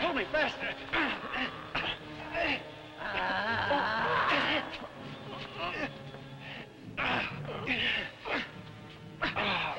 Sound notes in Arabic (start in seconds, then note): 1.0 الرجال يئنون; 2.9 بوبوكا تتأوه; 6.9 الرجال يئنون